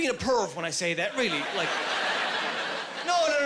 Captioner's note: laughing